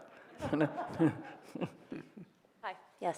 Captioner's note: audience chuckling